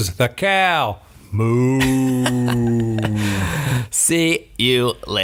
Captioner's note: laughing